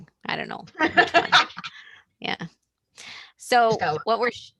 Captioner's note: laughs